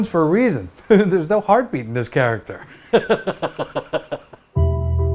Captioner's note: laughs